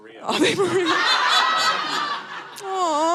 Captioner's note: audience laughing